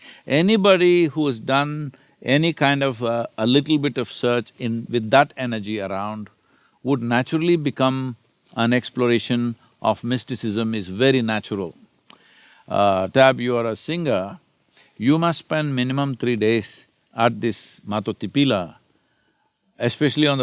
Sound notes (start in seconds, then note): none